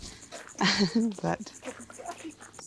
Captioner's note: chuckles